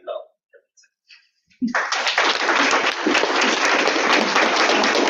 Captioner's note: audience clapping